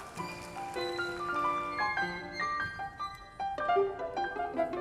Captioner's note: audience applauding